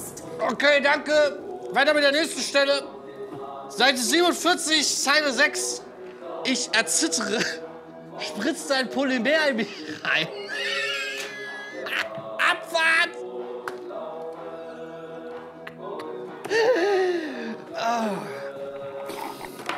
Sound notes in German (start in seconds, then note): 9.5 Lachen; 13.4 fernes Radio; 19.0 Schlürfen